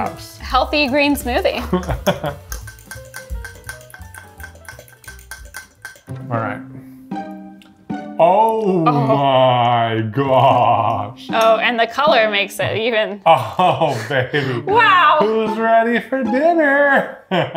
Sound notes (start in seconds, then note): 1.6 chuckling; 3.0 fork clinking; 13.2 chuckling; 16.9 chuckling